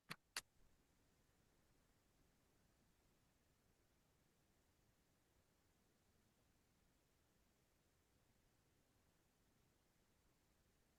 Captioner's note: silence